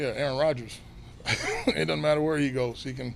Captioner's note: laughing